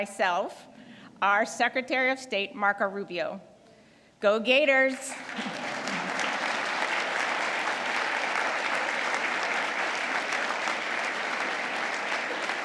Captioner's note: applause